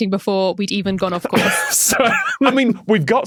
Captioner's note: wheezes